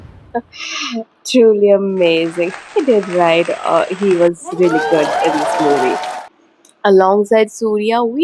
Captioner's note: cheering